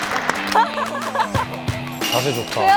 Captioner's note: awwwww